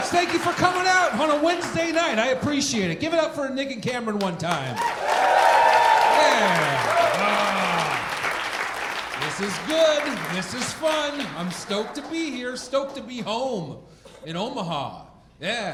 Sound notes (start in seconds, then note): 4.8 audience cheering and applauding